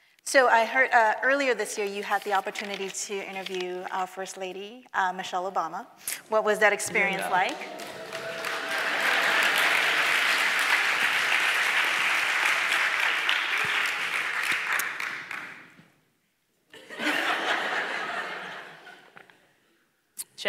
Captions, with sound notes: - So I heard earlier this year you had the opportunity to interview our First Lady, Michelle Obama. What was that experience like? (audience clapping) (audience laughing)